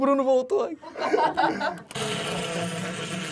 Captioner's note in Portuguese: risadas